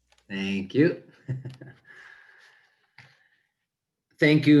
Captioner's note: laughing